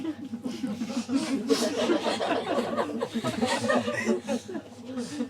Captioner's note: laughter